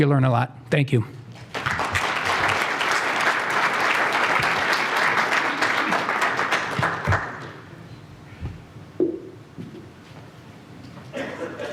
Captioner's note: applause